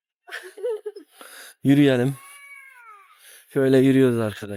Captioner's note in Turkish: kahkaha